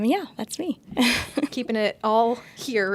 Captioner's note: chuckles